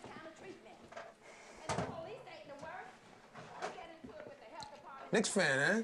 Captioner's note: owner arguing in background